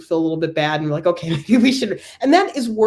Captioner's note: laugh